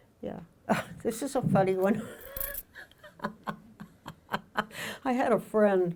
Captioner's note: laughing